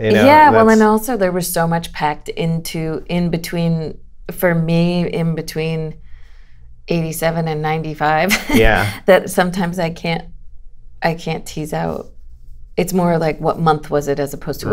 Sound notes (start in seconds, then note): 8.3 laughter